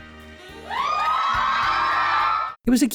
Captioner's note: romantic music; audience cheering